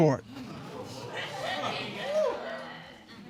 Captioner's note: audience gasping